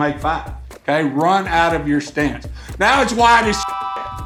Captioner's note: train whistle